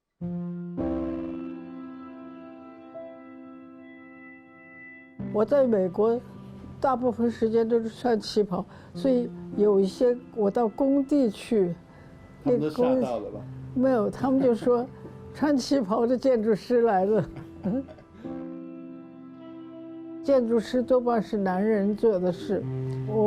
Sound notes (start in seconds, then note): 0.2 gentle music begins; 5.9 Mandarin; 12.8 Mandarin